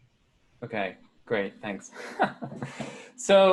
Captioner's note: laughing